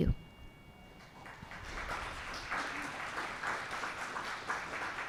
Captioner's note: applause